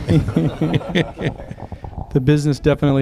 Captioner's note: laughter